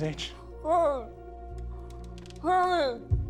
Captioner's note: Mrs. Hill muffled; loud heartbeat thumps